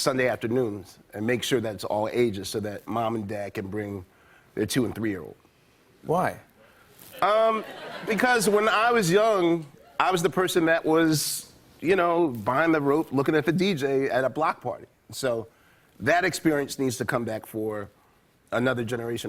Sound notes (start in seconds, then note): 7.2 laughter